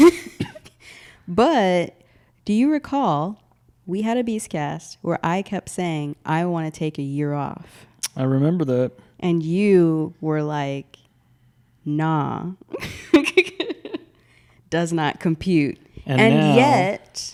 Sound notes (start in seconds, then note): 0.8 laughs; 12.8 laughs